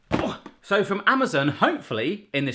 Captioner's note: thuds